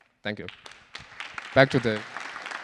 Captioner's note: applause